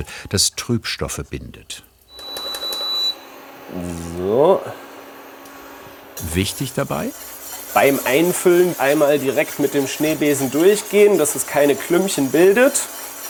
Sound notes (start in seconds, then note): 2.1 beeps